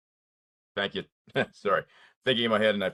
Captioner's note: laughs